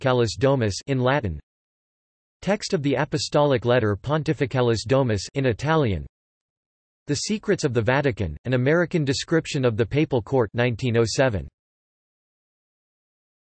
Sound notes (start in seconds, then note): 5.2 in Italian